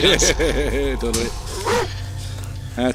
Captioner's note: laughing